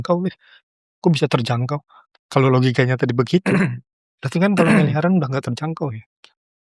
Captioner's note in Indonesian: berdehem